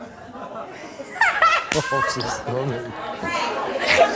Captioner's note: audience cheers